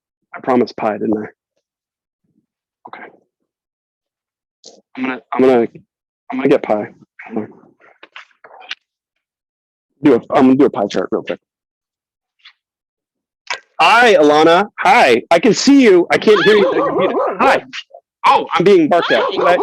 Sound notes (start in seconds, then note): 16.3 dog barks; 18.6 laughs